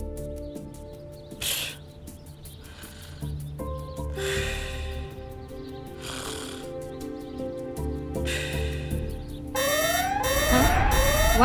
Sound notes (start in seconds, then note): 1.7 soft snoring; 9.6 alarm Ringing